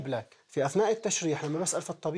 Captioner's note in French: Audio en arabe